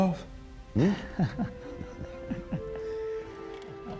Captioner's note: chuckles